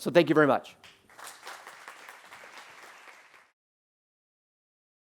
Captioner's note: applause